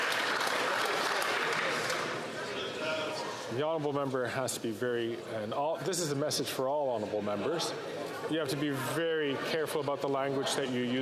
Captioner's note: some Applause